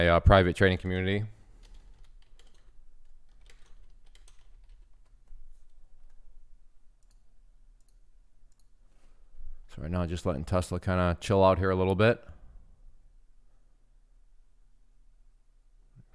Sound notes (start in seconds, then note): 2.9 typing; 8.4 clicking